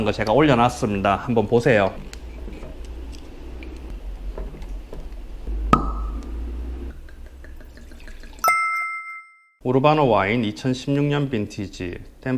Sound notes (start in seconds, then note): 5.6 pop